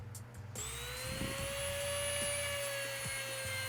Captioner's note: whirring